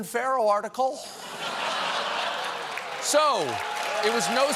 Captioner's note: cheers and applause